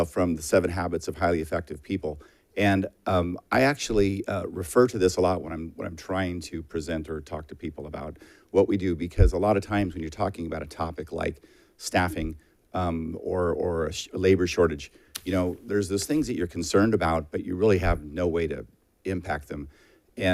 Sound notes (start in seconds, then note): none